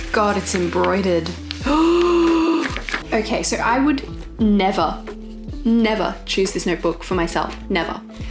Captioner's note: gasps